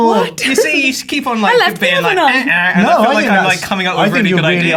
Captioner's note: imitates error noise